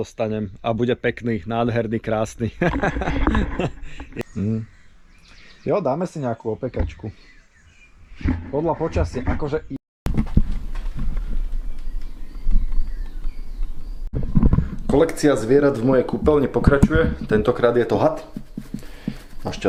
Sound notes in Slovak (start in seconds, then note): 2.4 smiech; 4.3 odkašľanie